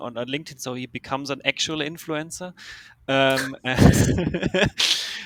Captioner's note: laughs